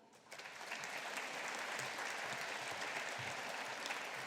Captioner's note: audience applauding